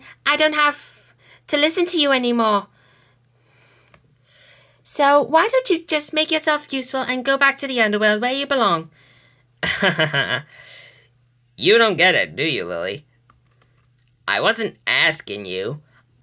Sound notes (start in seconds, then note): 9.6 Hades laughs sarcastically